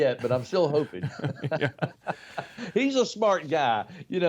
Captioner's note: both laugh